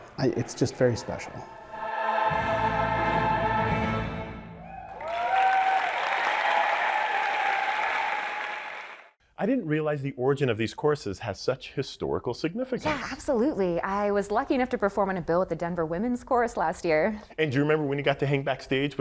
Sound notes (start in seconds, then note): 3.1 somber choral music; 4.5 audience cheering; 4.6 audience applauding